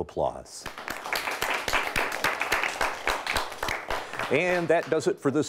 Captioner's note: audience applauds